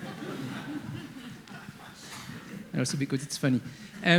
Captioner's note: audience laughing